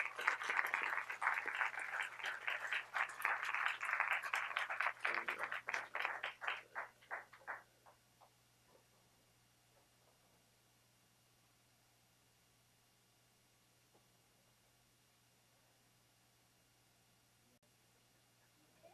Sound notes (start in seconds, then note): 3.6 applause